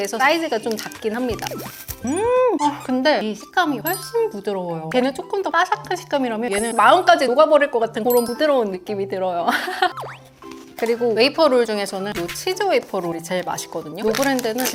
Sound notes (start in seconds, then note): 1.3 snack-eating ASMR